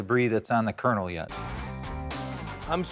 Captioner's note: none